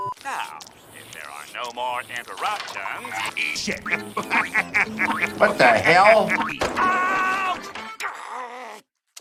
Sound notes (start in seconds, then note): 2.7 Mr Krabs Laughs; 7.8 growls in Anger